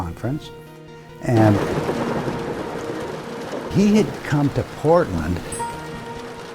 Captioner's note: thunder rumbling